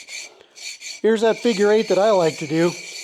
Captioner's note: scraping